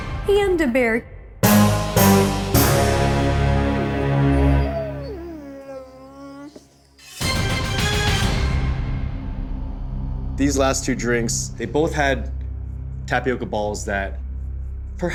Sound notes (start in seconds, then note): 1.2 whining; 1.3 dramatic music intensifies; 7.2 dramatic music